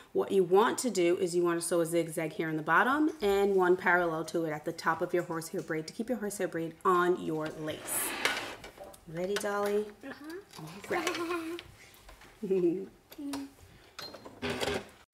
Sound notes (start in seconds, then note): 10.9 laughing; 12.4 both chuckling